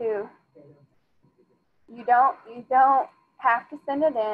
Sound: student speaking faintly

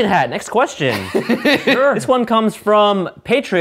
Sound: laughter

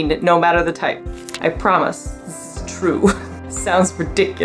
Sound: chuckles

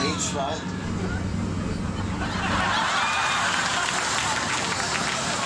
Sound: audience laughing

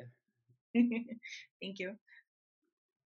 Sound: chuckles

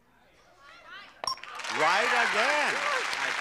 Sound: bell rings; audience applauds

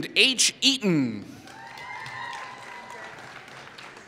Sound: applause

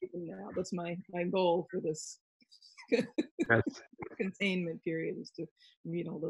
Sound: laughs

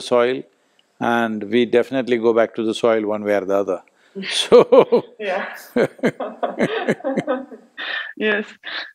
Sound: both laugh

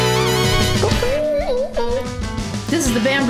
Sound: imitating trombone sounds; kiss sound

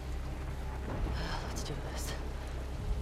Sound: sigh

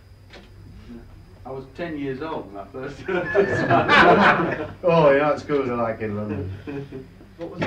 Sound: laughter

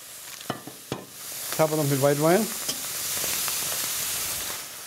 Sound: splashing, sizzling

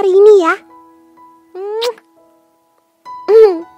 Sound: kiss

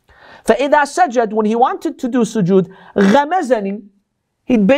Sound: Arabic

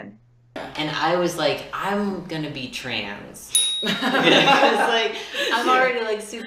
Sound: laughter

